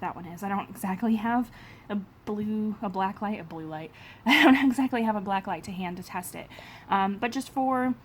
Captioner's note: laughs